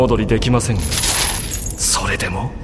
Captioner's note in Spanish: sonido de cadenas